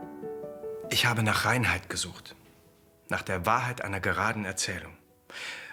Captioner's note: speaking in foreign language